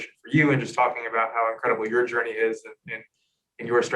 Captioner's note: murmurs